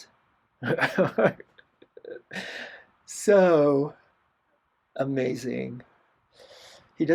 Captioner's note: laughter